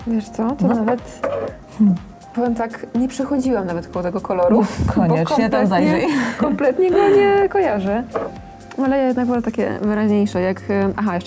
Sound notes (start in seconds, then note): 5.1 laugh